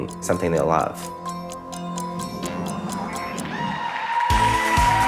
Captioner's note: audience cheering; pensive music; audience applauding; bouncy pop music